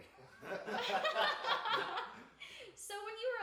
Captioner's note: group laughs